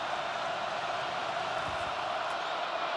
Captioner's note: crowd cheering